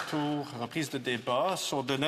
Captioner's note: some Applause